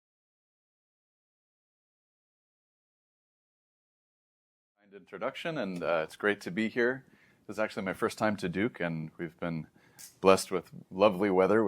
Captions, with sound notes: - [silence] - And introduction, and, uh, it's great to be here It's actually my first time to Duke, and we've been blessed with lovely weather,